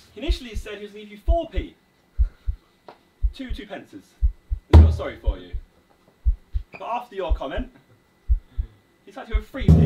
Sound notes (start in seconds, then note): 6.2 heart beating